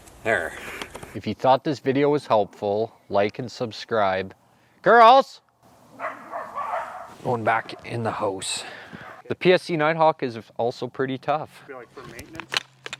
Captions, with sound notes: there if you thought this video was helpful like and subscribe girls! [dogs barking] they're going back in the house the PSE Nighthawk is also pretty tough